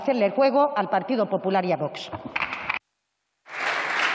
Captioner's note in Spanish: Aplausos